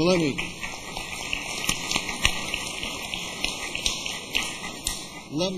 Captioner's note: applause